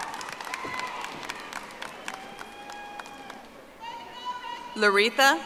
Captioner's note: audience applauding